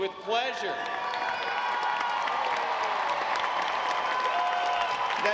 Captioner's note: audience applauds